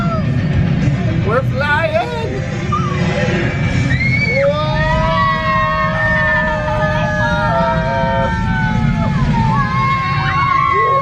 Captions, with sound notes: We're flying! - Whoa! (excited screaming)